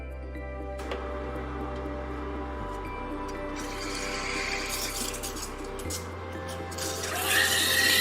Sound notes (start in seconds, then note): 0.8 coffee machine hums